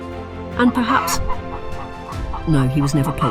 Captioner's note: chicken clucking